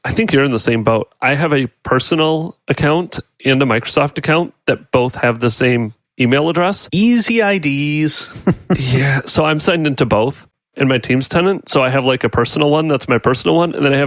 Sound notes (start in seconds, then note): 8.2 chuckles